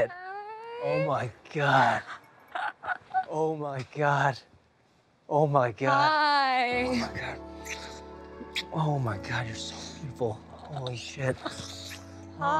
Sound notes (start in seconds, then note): 2.5 laughs